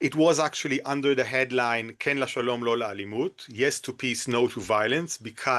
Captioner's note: in Hebrew